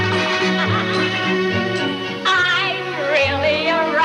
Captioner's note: laughing